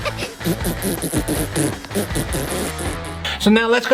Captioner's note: minion laughing; upbeat music; minion buzzing tongue